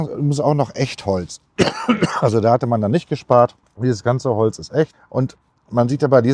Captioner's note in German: husten